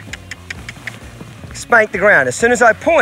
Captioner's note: mouth clicking